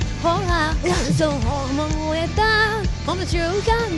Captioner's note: cough